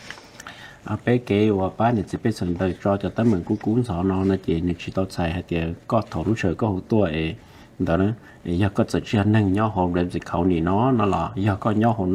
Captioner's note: Speaking in Hmong